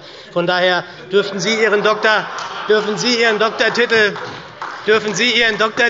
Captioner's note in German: Heiterkeit und Beifall bei der SPD